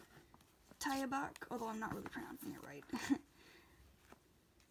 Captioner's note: laughs